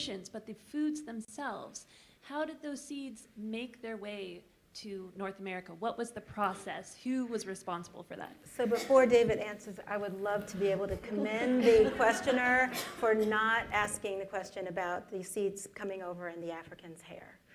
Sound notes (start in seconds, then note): 9.5 laughter